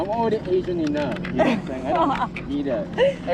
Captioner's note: laughing